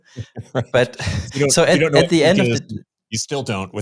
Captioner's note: chuckling